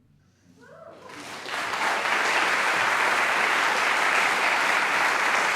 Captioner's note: audience applause